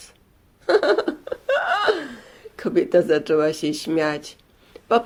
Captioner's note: laughter